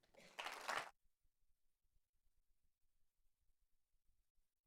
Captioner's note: audience applauds